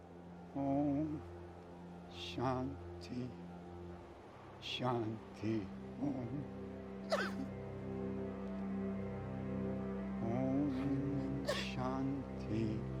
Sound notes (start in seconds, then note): 7.1 cries